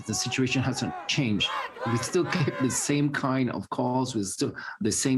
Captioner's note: chanting